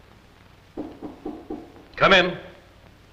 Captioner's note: knocking